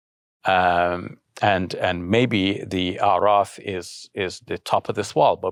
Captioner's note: speaking in foreign language